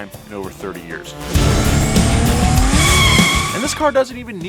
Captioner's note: rock music; wheels squeak